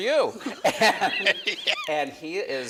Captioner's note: laughs